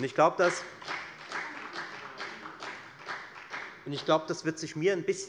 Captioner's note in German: Beifall bei der FDP und der SPD